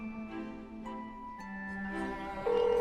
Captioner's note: phone ringing